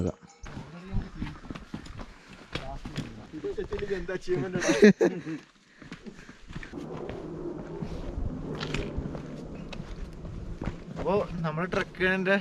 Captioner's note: breeze